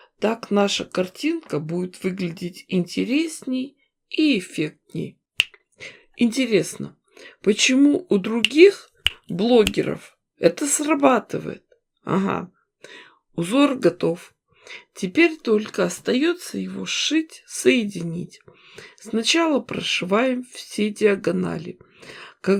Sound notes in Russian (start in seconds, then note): 5.4 щелчок пальцами; 9.0 несколько щелчков пальцами